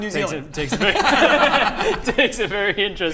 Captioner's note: laughs